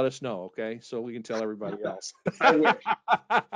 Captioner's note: laughing